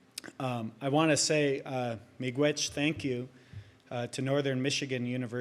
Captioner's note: speaks in native language